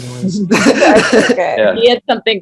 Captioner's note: laughter